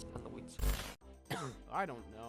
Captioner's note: cough